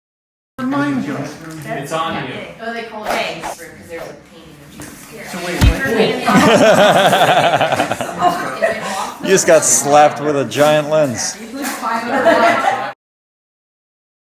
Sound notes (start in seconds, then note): 5.6 thud; 6.2 laughter; 12.1 laughs